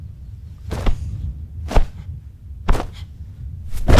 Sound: body thudding; hand thudding

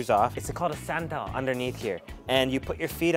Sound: foreign language

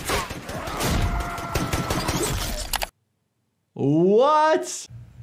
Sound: gunshots fire; man yelling

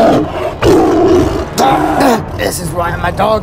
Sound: saber Tooth Tiger growls

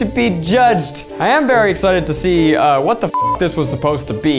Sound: beeping

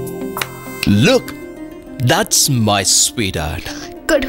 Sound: snaps finger

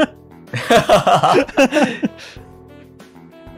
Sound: cracks up

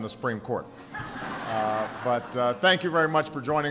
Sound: laughter

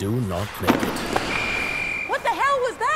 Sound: whistle

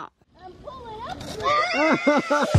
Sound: water sprinkler; laughter

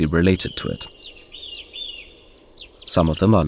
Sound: sounds of nature

